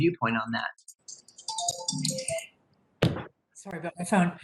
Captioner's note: phone rings